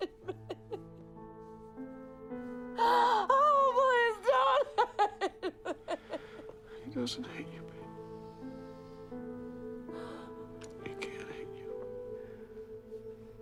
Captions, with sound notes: Oh, please don't hate me! (Bryn crying) - He doesn't hate you, babe. (pensive music) He can't hate you.